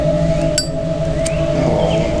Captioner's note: clicks Lighter Open